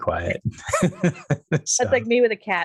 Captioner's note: laughs